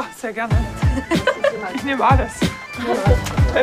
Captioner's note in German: Lachen